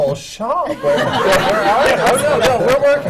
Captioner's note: laughter